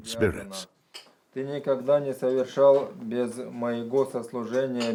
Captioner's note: speaking Russian